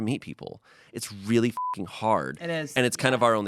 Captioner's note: beep